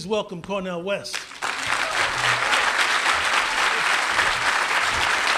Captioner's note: applause